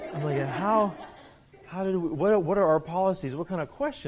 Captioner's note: students laughing